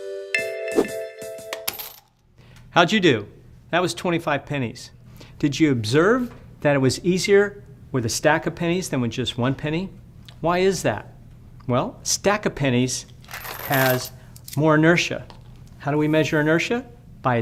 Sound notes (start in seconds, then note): 1.6 change jingling